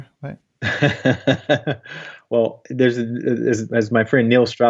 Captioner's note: light laughs